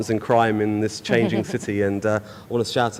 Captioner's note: laughs